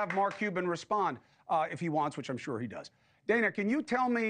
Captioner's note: applause